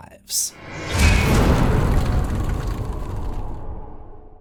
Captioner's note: impact